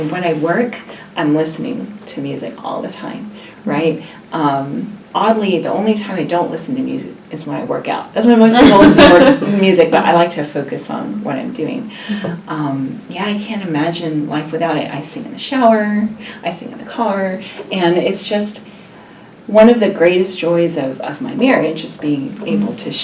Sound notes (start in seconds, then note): 8.6 laugh